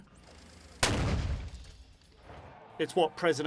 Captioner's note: boom